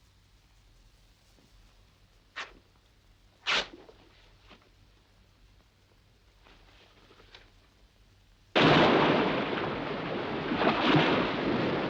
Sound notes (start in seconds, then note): 3.4 clothes ripping; 8.5 waves crashing